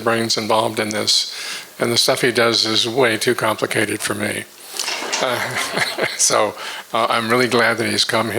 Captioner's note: all laugh